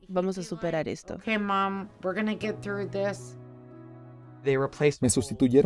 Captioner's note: Hablando idioma extranjero